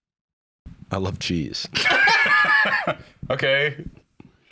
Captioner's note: laugh